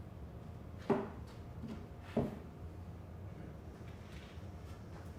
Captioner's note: hitting board